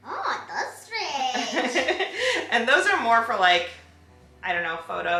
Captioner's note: laughs